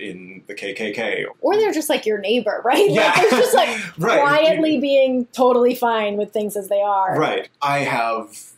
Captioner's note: laughs